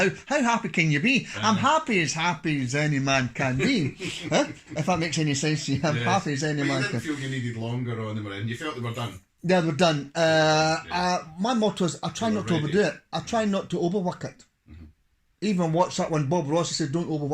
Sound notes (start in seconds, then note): 3.5 laughs